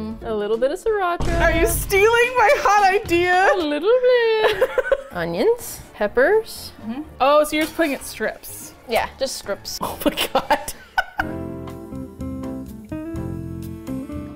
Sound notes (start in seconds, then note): 0.2 singsong; 3.5 laughs; 3.6 singsong; 9.8 laughs; 11.5 easy listening music